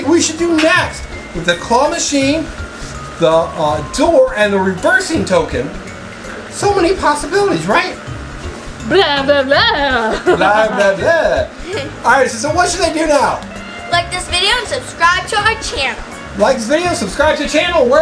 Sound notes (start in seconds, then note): 8.8 speaks gibberish